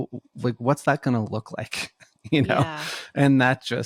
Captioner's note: laughs